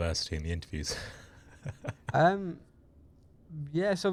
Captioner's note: laughs